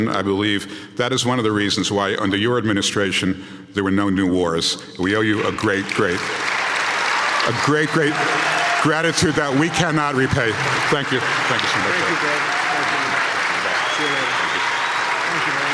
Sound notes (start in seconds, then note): 11.3 audience clapping